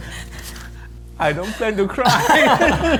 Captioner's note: laughs